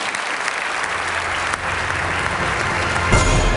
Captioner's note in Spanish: Aplausos